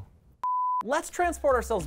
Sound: beep

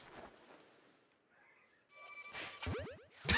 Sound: laughs

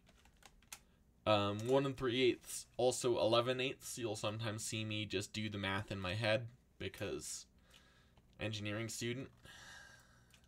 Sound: sigh

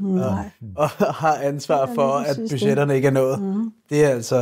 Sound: laughs

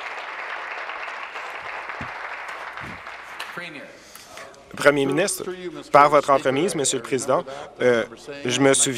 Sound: applause

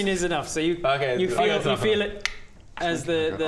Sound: click

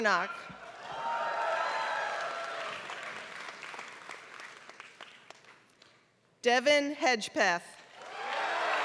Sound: applause; applause

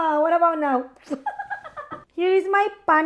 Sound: laughing

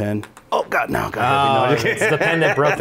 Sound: laughing

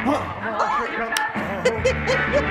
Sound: squeals; giggles

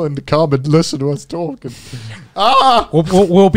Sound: screaming

